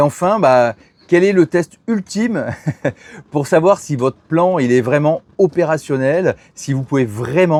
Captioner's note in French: rires